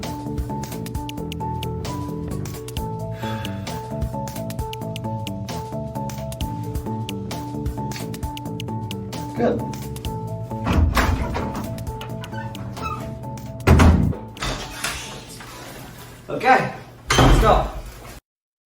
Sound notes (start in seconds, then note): 10.5 door opens; 12.3 door closes; 14.0 door opens